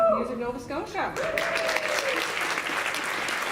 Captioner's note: applause